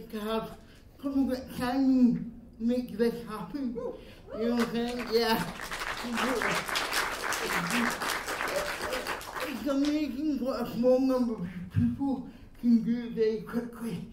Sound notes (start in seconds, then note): 4.5 applause